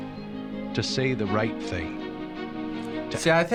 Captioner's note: voice-over